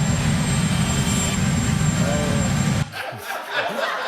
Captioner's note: whirring continues; laughter